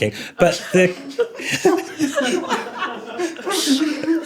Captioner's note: laughter